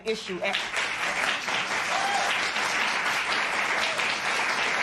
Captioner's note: cheers and applause